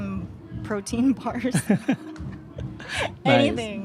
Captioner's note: laughs